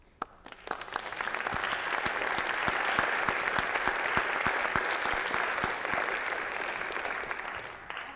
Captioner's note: applause